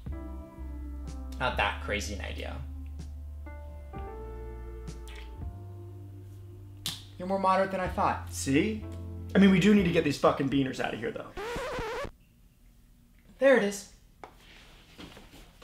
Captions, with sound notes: Not that crazy an idea You're more moderate than I thought See, I mean we need to get these fuckin beaners out of here though *record scratch* There it is